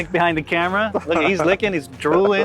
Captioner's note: laughing